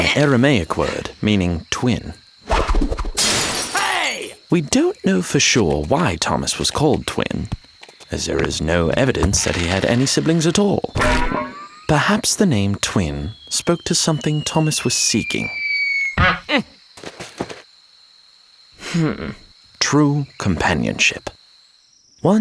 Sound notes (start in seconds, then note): 2.5 air whooshing; 3.2 glass shattering; 15.3 high pitched ringing; 16.1 horn honking; 16.2 Thomas grunting